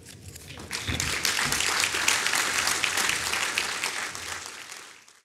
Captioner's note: applause